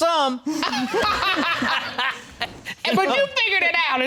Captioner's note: all laughing